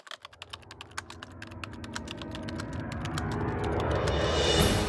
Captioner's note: typing sounds